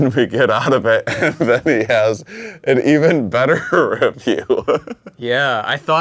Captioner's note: laughs